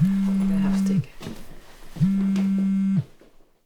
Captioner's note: phone rings